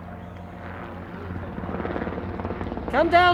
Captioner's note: helicopter chopping